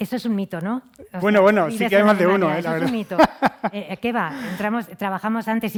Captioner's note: laughs